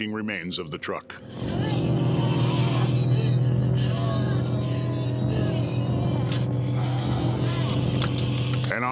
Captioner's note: creatures wailing